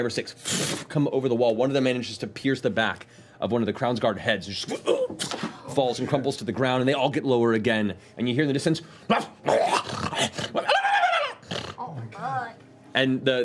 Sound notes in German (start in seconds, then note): 9.4 knurrendes Heulen